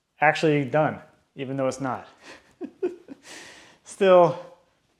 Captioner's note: chuckles